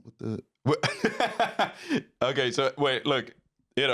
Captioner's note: laughs